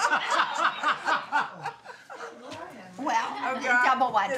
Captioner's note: all laughing hysterically